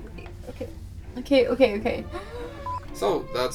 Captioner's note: inhales deeply